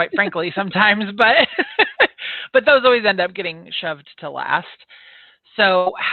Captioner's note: laughs